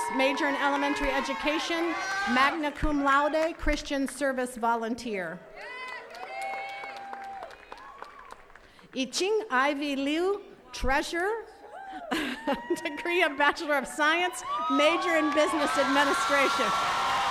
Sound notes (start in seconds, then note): 5.5 attendees cheering; 11.7 attendee cheering; 12.0 chuckles